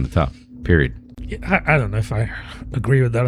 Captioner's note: uh